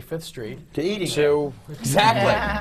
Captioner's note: laughter